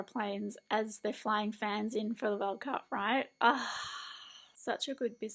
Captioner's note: excited exhale